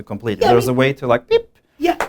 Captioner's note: beep